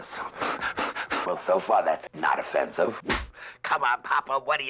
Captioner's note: slate clap